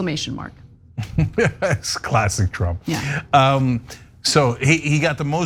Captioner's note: laugh